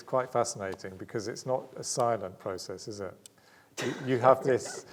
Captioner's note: laughing